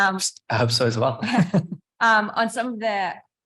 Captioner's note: chuckles